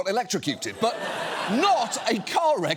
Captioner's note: studio audience laughs